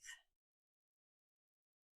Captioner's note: silence